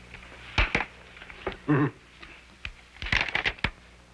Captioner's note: chuckles